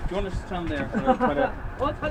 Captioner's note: laughter